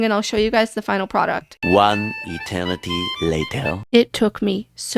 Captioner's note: french accented male narrator voice